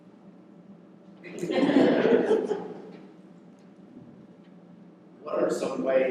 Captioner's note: laughter